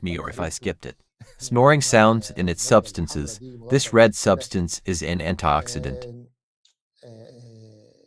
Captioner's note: snoring sounds